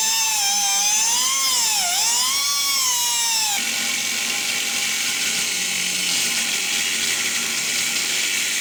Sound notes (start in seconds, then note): 4.0 grinding sounds